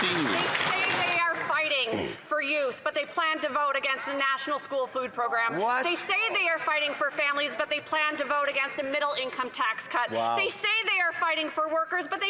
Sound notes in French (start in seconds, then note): 5.1 voix de l'interprète